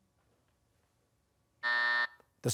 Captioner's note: buzzer